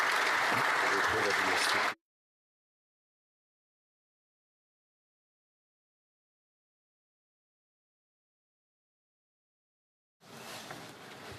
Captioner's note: applause